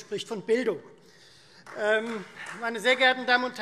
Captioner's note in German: Beifall Freie Demokraten